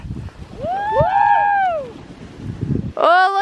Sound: cheering

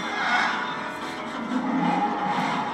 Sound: Sylveon cries; Noivern roars

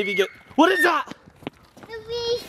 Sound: child screams

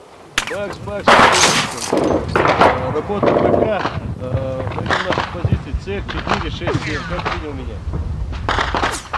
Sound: radio exchange

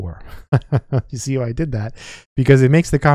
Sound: chuckles

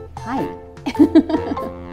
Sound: laughs

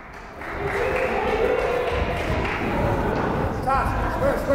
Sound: crowd cheering

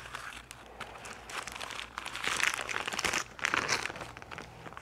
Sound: paper rustling sounds

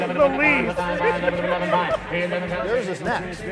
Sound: laughing

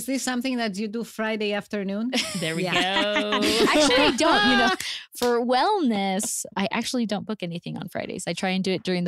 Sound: laughter

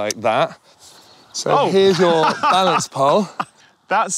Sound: laughs

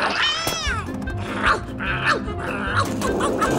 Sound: barking continues

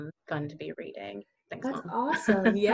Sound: chuckles

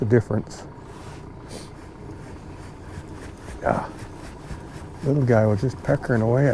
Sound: reel cranking

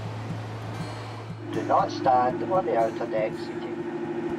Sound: man on PA

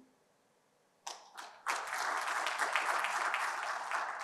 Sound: applause

